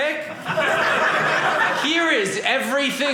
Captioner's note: audience laughing